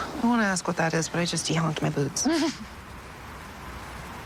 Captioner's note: chuckling